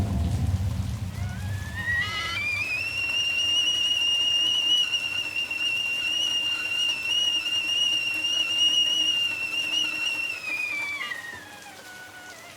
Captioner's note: kettle Boiling